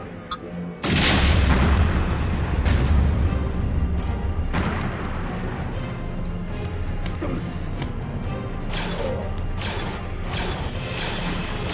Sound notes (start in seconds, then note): 0.8 explosion rumbles; 4.3 slow orchestral music; 8.9 blaster fires